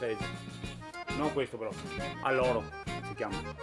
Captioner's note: speaking Italian